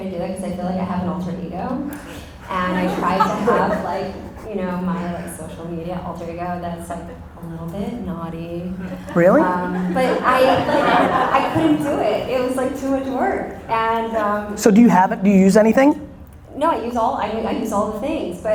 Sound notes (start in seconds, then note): 1.9 audience laughter; 8.7 audience laughter